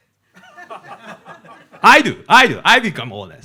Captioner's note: audience laughing